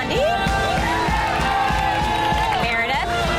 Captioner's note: upbeat music; women cheering